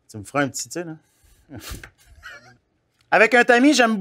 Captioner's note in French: rires